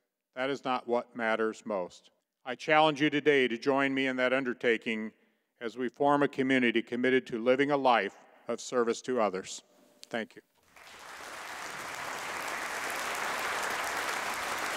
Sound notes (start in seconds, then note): 10.6 audience applauding